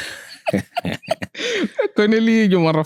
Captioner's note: laughing